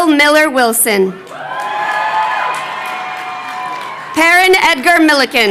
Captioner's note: crowd cheering